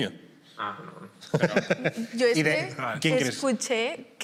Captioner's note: laughs